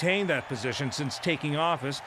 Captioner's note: cheering and applause